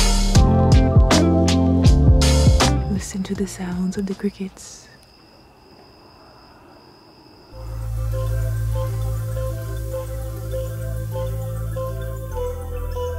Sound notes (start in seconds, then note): 0.0 mellow music; 5.1 crickets chirping